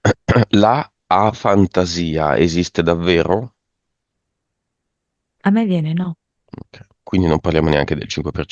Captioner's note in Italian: schiarire la voce